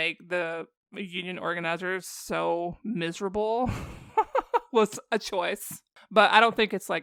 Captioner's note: laughter